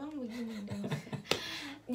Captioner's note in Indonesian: ketawa